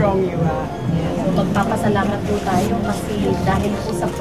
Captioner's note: woman speaks local language